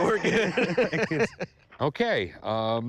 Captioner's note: laughter